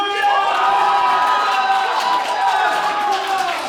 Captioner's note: ensemble cheers